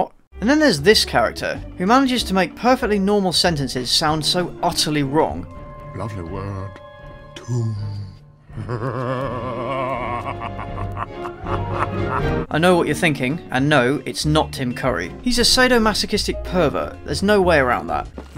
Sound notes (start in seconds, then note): 8.5 perverted laughter